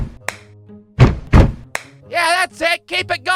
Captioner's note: stomp-stomp-clap!